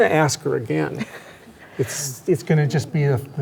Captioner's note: chuckles